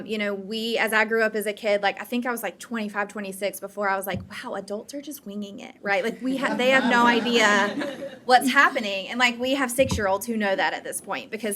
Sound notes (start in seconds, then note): 6.2 audience laughing